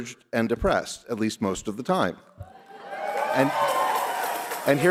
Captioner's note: laughter